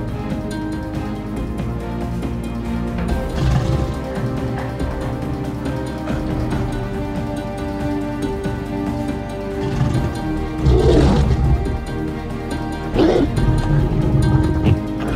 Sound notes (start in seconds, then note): 3.3 creature growling; 9.6 creature growling; 10.6 creature roaring